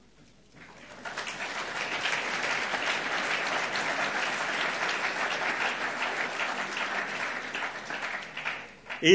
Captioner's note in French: Applaudissements